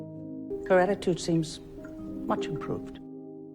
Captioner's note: voiceover